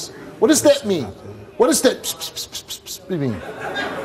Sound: mimics whispers

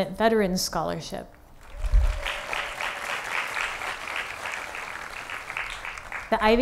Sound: applause

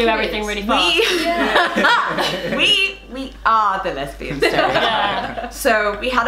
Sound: laughter

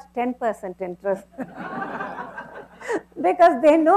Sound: laughter

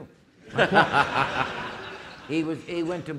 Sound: audience laughing

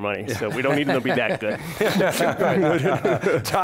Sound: all laugh

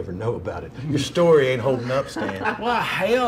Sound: everyone laughs

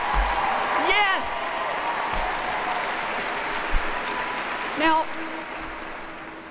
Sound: applause

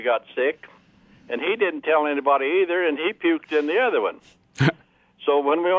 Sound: laughs

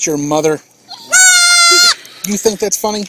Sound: goat screams louder

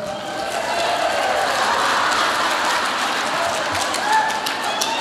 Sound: audience applauds

